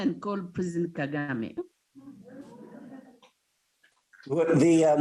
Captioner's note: students laughing